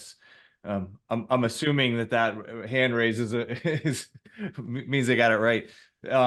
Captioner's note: laughs